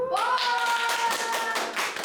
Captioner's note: applause and cheers